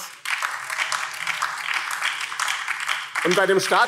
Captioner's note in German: Beifall BÜNDNIS 90/DIE GRÜNEN und vereinzelt Freie Demokraten